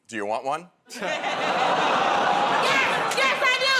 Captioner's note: audience "Oh"s